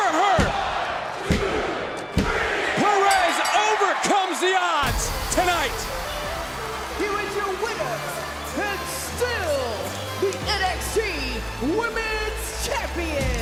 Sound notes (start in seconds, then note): 3.0 bell rings; 6.0 music plays